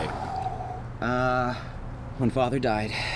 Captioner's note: Anubis sighing